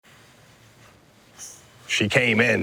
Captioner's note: inhales & exhales